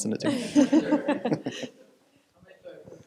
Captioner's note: chuckles